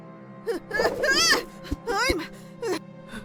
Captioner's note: Panicked fox boy sounds